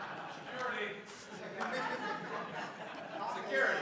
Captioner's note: laughter; laughter